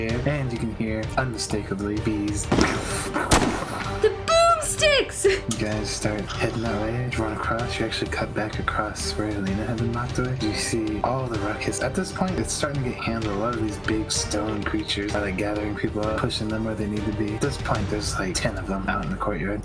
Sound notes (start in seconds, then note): 2.4 peww; 2.5 pewww